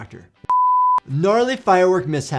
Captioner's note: transition beeps